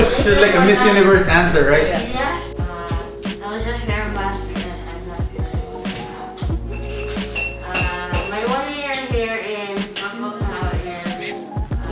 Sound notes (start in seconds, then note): 0.0 invitees laughing; 6.6 glasses chinking